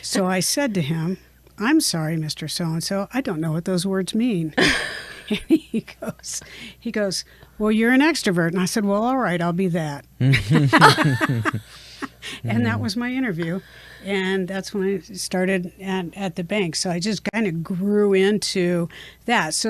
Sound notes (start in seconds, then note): 4.6 chuckles; 10.3 all laugh